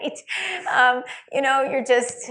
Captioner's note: laughs